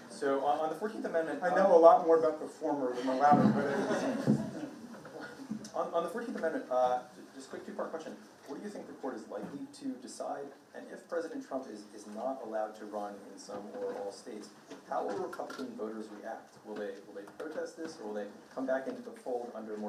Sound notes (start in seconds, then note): 3.0 participant laughing